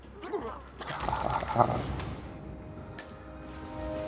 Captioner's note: unconvincing and tired evil laughter